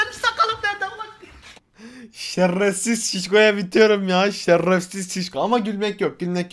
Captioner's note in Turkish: gülme